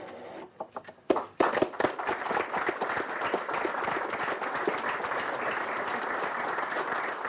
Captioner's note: applause